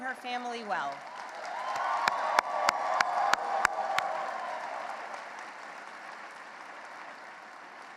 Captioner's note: clapping and applause